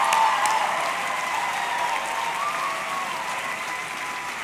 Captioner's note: audience cheering; audience clapping